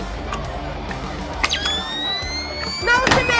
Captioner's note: device emitting high-pitched sound